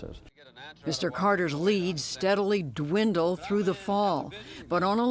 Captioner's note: voice-over